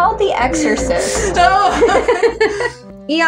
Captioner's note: laugh; snicker; scared Laugh